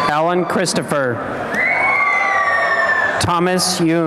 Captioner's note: cheering and applause